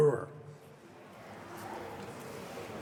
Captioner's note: audience reaction